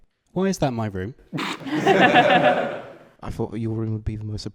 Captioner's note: laughter